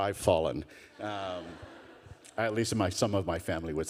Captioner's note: people laughing